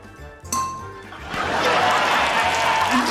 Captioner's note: dink!